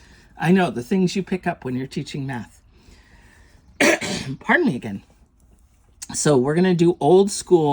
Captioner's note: coughs